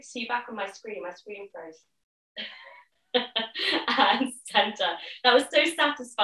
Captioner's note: laughs